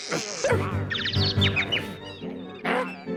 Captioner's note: birds tweeting